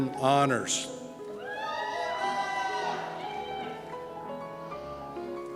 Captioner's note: cheers